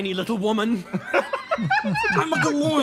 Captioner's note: laughs